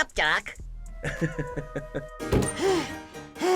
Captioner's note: laughs